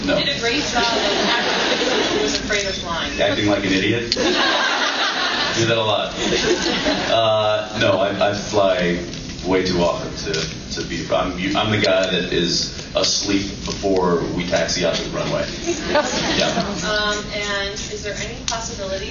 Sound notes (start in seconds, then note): 4.2 laughs